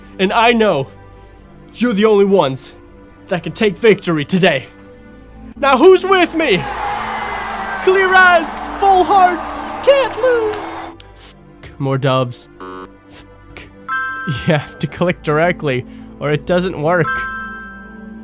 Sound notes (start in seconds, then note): 6.2 cheering; 12.6 buzzer